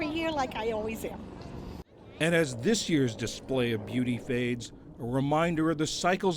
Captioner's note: voice-over